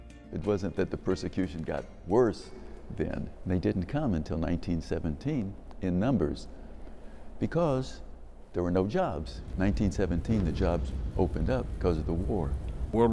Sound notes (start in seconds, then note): 9.2 soldiers shuffling